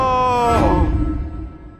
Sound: suspenseful swish

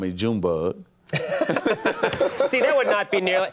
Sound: laughing

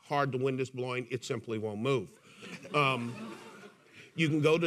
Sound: audience laughing

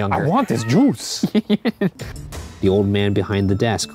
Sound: laughs

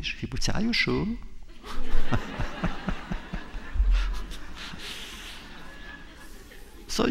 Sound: laughter

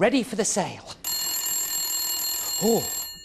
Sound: telephone rings

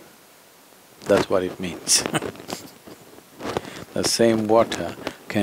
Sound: laughs

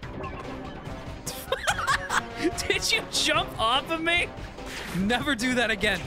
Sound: laughing

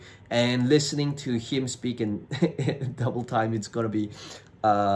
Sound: chuckles

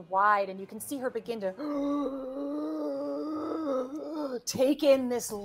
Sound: wheezing

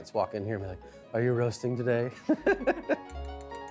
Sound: laughs

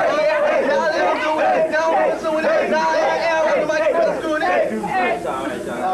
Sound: everyone chanting happily

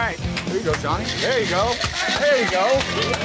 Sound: cheers

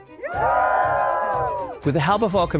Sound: people cheering

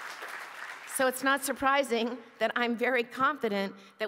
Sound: applause

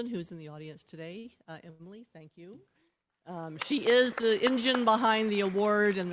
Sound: applause

